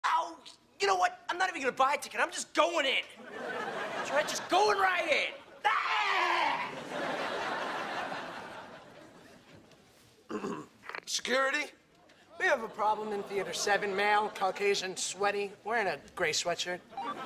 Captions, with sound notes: Oh! You know what? I'm not even gonna buy a ticket, I'm just going in. Right, just going right in! (screams at ticket checker employee) (clears throat) Security, we have a problem in theater seven male Caucasian, sweaty, wearing a gray sweatshirt.